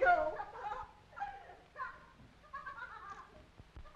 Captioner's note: laughing